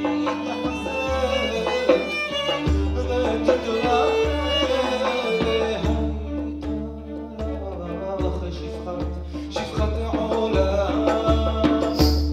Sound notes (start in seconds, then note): none